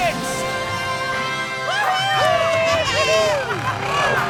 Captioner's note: cheering